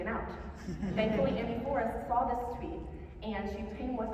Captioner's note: laughter